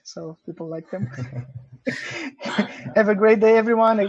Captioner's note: laughter